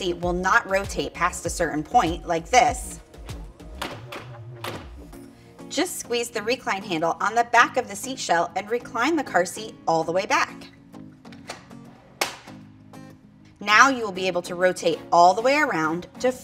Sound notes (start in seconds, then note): 3.5 upbeat music; 3.6 car seat jamming; 11.5 car seat snapping; 11.5 upbeat music